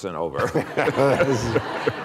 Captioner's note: laughter